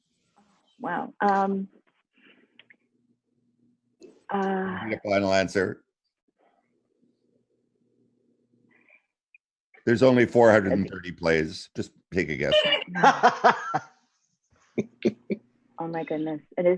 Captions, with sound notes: - Wow! - Your final answer. There's only 430 plays, just pick a guess. (laughs) - Oh my goodness.